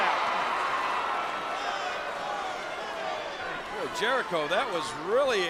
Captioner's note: applause